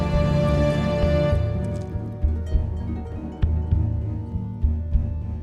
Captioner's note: Dracula hisses and Bites Neck